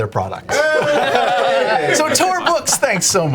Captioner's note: all cheer